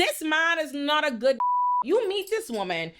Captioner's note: beep